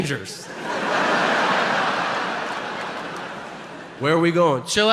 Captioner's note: audience laughing